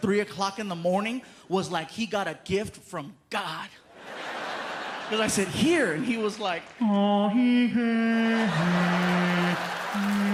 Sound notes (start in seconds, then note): 3.9 laughter; 7.3 humming reverential religious tune